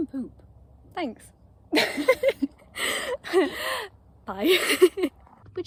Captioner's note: laughs